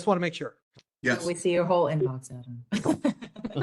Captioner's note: laugh